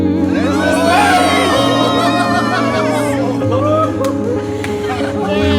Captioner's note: everyone cheers